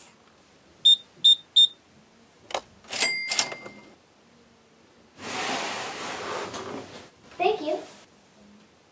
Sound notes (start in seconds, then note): 0.8 beep beep beep; 2.9 ka-ching